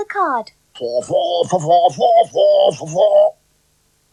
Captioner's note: Spencer Speaks In Spider Language